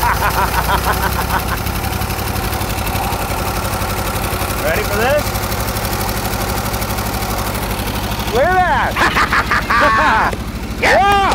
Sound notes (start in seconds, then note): 0.0 laughs; 2.8 engine running; 6.6 engine revving; 9.8 laugh